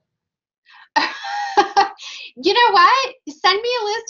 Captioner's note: laughing